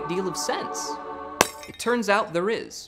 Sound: light bulb breaks

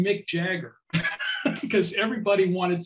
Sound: laughing

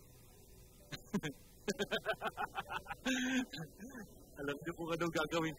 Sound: laughs

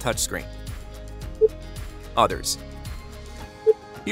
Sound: screen beeps

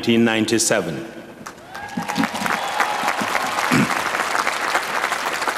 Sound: applause

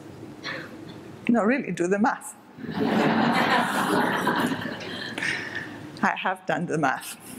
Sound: audience laughter

